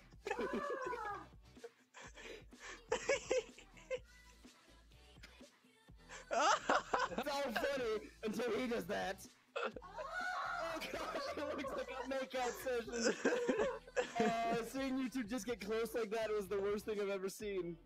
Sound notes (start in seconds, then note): 2.6 laughing; 6.2 surprised laughter; 10.6 laughter